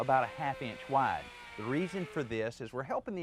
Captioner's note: saw whirring